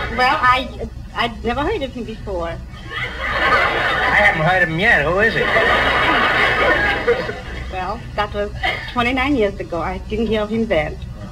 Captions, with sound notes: Well, I never heard of him before. I haven't heard of him yet. Who is he? (Audience laughs) Well, that was 29 years ago. I didn't hear of him then.